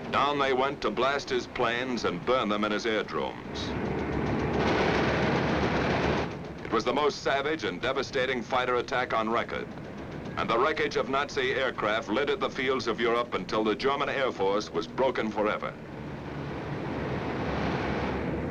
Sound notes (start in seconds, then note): 4.5 guns firing